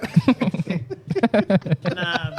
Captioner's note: laughing